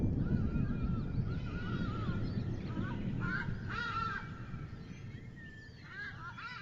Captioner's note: birds cawing